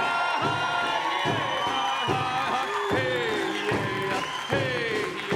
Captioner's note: audience applauding